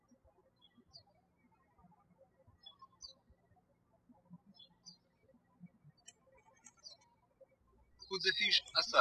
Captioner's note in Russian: птички щебечут